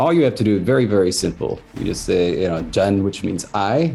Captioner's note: speaks in Sangheili